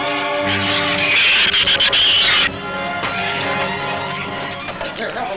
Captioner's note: shrews chatter; shrews screech